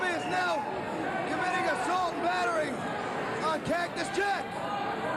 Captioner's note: cheers and applause